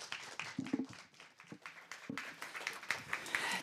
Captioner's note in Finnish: Yleisö antaa aplodit